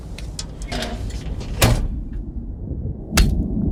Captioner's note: door slams; slashing sound; chopping sound